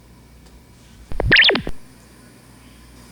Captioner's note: electric communicator noise